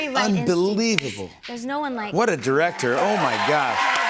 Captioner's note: audience cheers